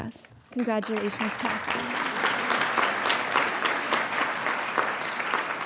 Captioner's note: audience applauding